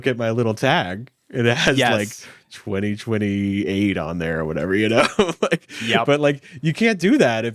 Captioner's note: laughs